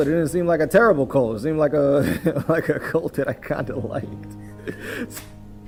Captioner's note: laugh